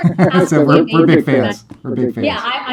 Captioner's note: laughing